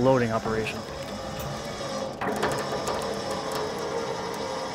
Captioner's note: engine whirring